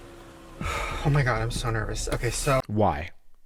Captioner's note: exhales